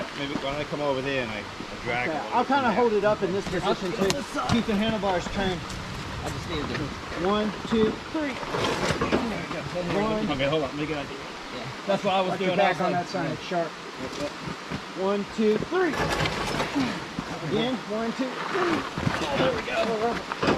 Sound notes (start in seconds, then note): 8.2 drag & Scrape; 16.0 scraaaaape